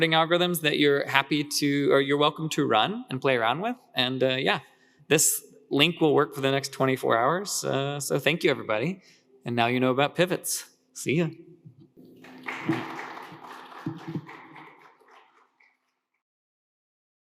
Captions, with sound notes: that you're happy to, or you're welcome to run and play around with. And yeah, this link will work for the next 24 hours. So thank you, everybody. And now you know about pivots. See you. (audience applauding)